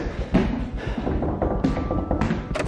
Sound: knocking

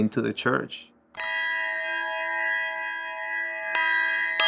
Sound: chiming

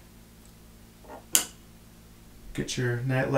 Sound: light clicking off

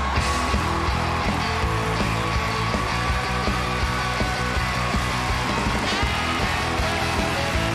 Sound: audience cheers and applauds; upbeat music

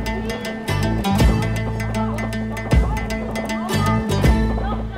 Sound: children conversing

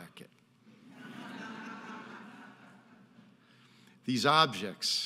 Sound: audience laughing

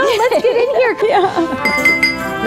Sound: glass clinking

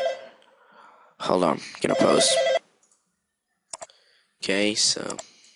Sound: phone ringing

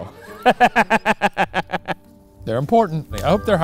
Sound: laughs

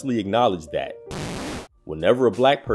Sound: static whirring

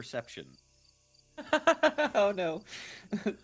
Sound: laughing

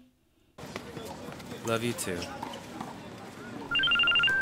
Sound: phone Chimes

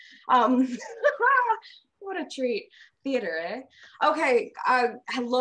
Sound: laughs

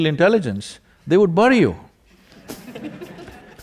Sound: laughter

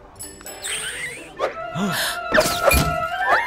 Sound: both gasp

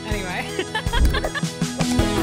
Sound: laughter

